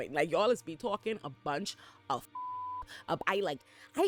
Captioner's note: beep